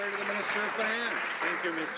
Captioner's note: some Applause